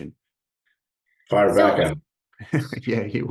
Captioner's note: laugh